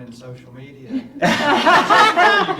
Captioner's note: laughing